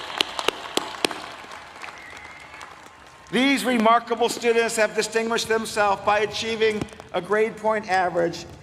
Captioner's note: applause